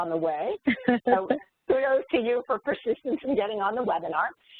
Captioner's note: laugh